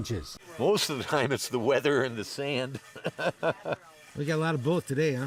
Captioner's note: laughs